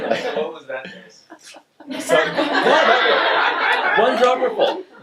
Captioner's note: audience laughs